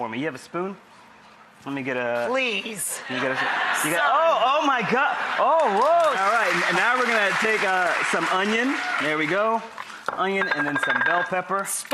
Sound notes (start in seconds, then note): 3.0 audience laughs; 4.6 audience applauds